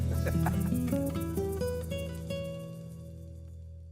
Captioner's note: laughing